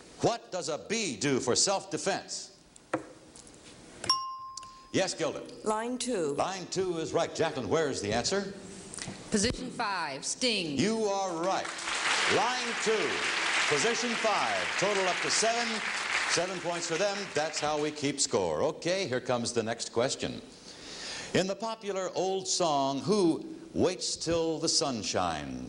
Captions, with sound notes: What does a bee do for self defense? (ringing bell) Yes, Gilda? -Line 2. -Line 2 is right. Jacqueline where is the answer? -Position 5, sting. -You are right. (audience clapping) Line 2, Position 5. Total up to seven. Seven points for them. That's how we keep score. Okay, here comes the next question. In the popular old song, who waits 'til the sun shines?